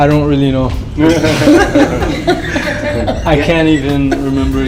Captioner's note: laughter